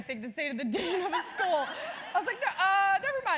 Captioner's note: laugh